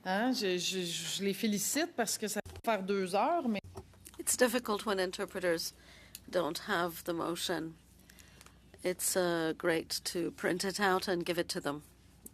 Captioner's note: speaking French